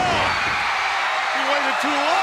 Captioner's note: audience cheers